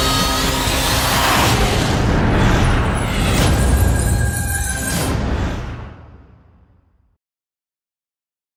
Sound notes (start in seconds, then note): 0.8 whooshing